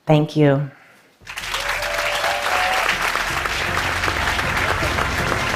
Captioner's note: applause